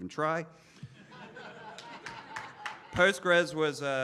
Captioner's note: laughing